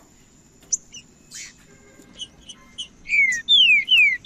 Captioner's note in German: trinca ferro cantando